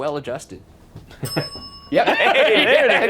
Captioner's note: bell dings